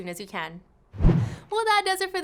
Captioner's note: whooshing